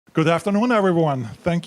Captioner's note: with Austrian accent